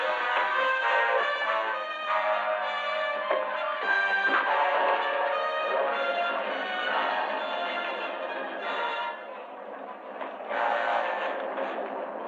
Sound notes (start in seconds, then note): 3.2 thud; 10.4 tense music